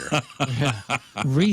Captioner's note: laughing